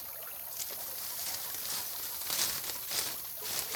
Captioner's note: leaves rustling